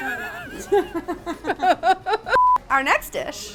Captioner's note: laugh